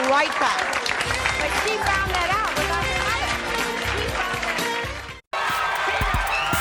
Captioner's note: applause; upbeat music